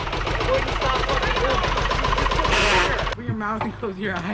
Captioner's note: grinds transmission